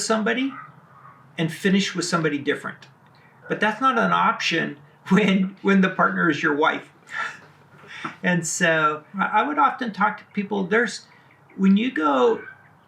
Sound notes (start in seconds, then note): 7.0 laughs